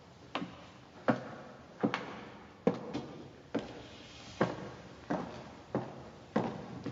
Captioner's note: footsteps echo